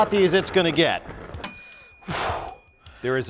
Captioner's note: ding SFX